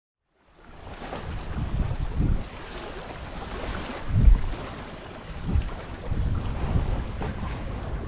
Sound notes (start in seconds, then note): 0.4 water swishing